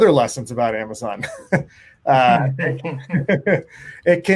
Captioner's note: laughing